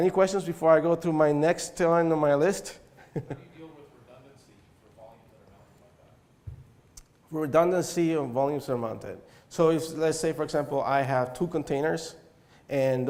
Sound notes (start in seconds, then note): 2.9 chuckle